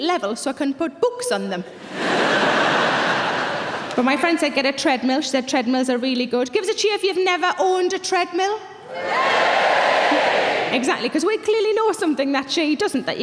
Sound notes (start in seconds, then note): 1.8 audience laughing; 8.9 audience cheering